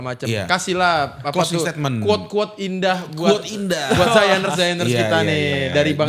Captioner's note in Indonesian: tertawa